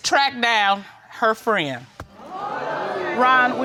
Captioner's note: audience exclaims